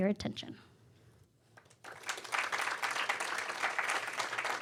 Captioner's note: applause